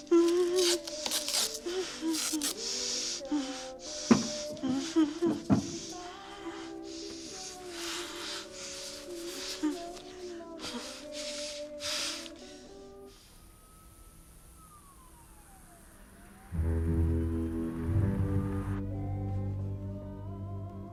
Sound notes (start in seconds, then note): 0.1 whimpers; 13.2 distant sirens approaching; 16.4 ominous music